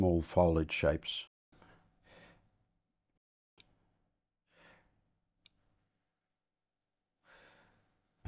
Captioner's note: silence